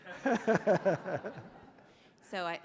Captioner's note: laughing